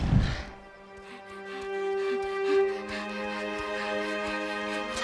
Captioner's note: panting